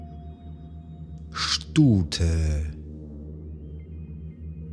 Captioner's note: german